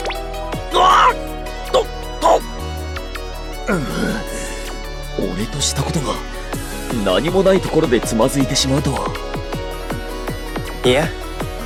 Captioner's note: sigh